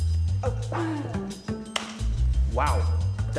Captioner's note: slaps thighs